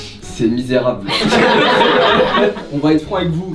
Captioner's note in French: rires